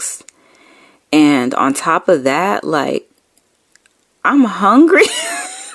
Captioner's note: laughing